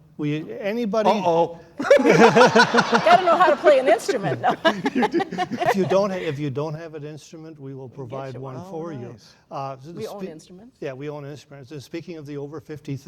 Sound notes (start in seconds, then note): 1.8 laughing